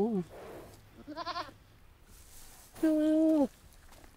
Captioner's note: sheep bleating; Gary bleating